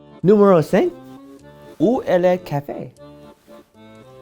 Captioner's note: accordion music; speaking French